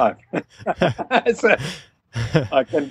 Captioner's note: laughter